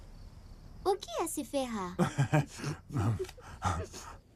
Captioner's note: Dad laughs